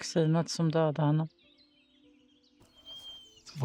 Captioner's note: birds chirping